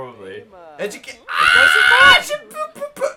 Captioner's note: screams